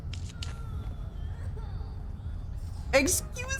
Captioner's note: pained sob